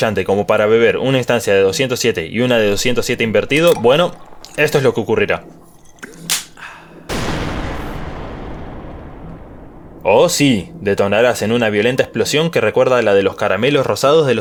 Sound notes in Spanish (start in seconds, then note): 7.0 kaboooooom